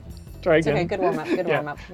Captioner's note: laugh